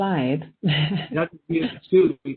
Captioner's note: giggling